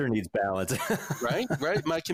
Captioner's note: laughs gently